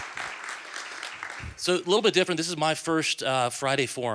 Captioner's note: applause